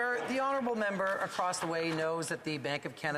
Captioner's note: applause